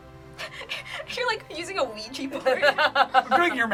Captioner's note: laughs